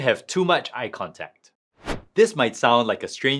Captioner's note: transition whooshing